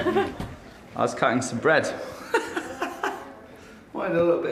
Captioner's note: laughs